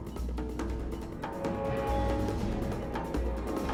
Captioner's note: loud metal groaning